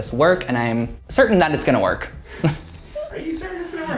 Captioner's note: chuckles